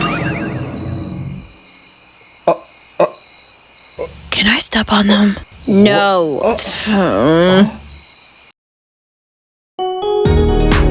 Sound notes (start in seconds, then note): 2.5 Elijah stumbles; 5.7 Bailynn grunts